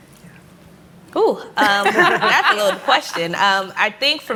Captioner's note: laughter